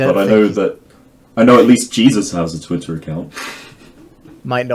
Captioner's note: none